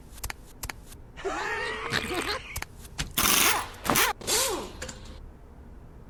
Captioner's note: Marines laughing